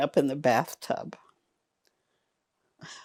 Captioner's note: pauses 8 seconds